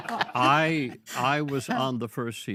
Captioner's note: all laughing